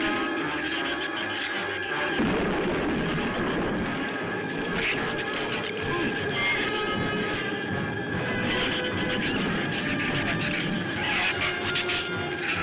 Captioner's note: thunder